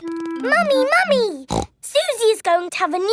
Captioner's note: snorts